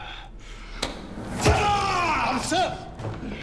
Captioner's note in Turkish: Yumruk sesi; Bağırma sesi